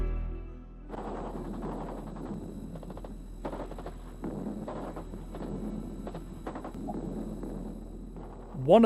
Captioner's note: gunfire